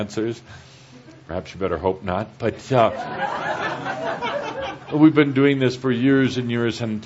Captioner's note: laughter